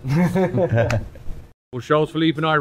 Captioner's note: laughter